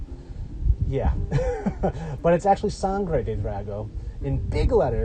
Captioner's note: laughs